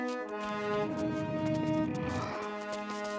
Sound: grunting

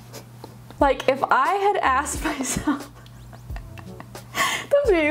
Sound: laughing

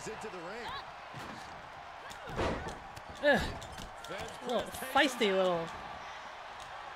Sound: applause

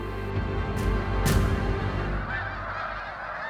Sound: birds calling

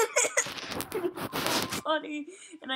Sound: laughing; muffled Microphone Sounds

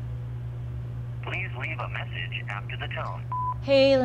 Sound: voicemail

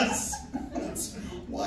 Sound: laughing

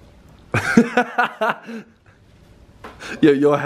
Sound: laughs

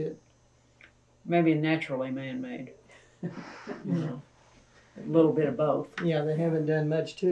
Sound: laughter

